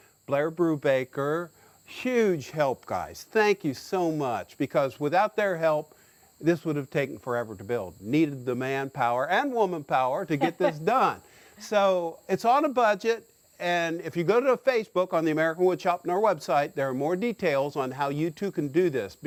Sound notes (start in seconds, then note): 10.3 laughs